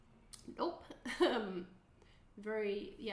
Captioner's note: chuckling